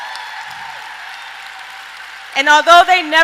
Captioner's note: applauding